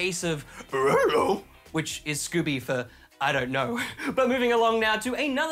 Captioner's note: imitates scooby-doo